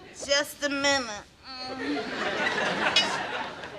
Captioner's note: sighs